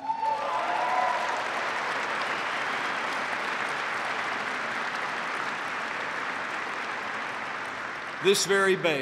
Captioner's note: applause